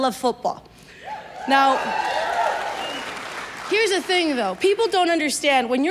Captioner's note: audience cheers and claps